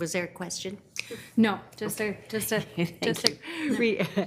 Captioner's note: faintly speaking